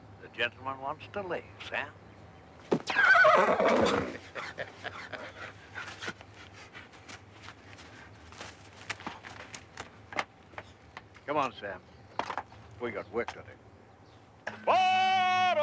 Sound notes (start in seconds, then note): 2.9 Sam neighs; 4.0 Pop laughs